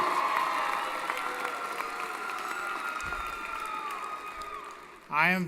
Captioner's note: applause & Cheering